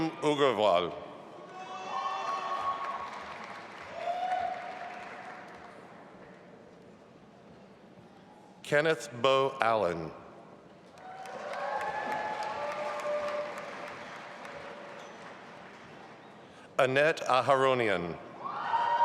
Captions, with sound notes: Ridam Agarwal. (audience applauding) Kenneth Beau Allen. (audience applauding) Annette Aharonian.